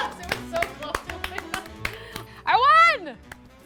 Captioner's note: group clapping